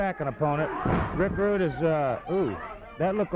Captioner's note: blows thudding